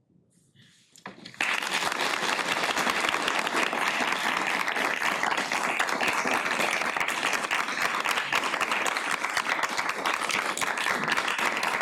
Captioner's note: audience applause